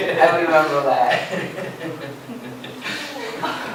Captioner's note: laughter